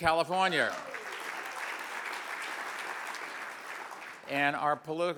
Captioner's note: audience applauds